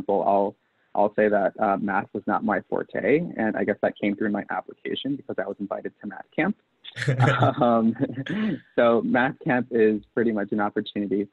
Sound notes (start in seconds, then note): 6.9 laughs